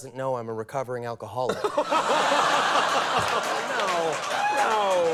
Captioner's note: audience laughs